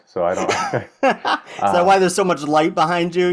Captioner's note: both laughing